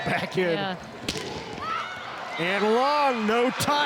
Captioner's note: ball thumping